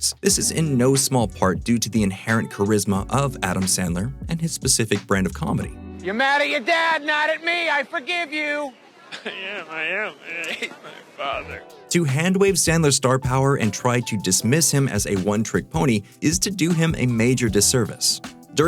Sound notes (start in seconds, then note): 9.1 crying